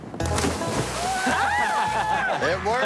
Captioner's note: all laughing